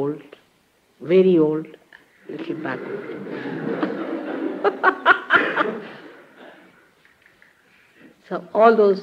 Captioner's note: laughing